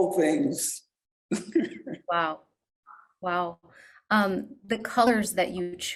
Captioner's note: laughs